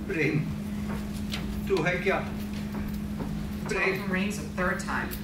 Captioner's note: speaks in foreign language